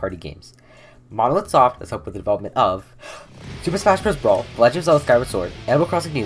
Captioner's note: deep breath